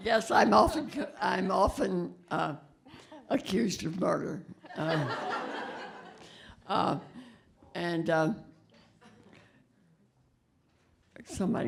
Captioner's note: laughter